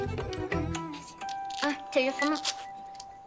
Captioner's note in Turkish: Telefon Sesi